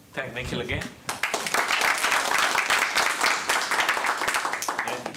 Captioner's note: applause